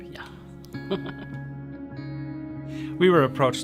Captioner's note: chuckling